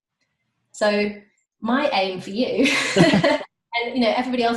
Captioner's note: laughing